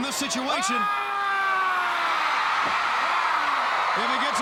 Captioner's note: crowd cheering